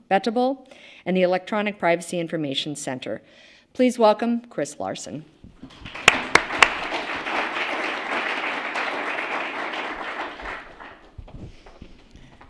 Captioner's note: applause